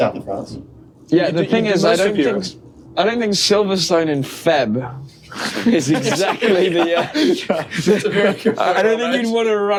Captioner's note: laughter